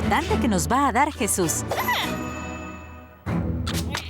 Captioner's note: caterpillar noises